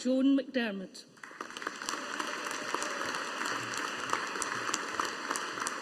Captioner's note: audience applauding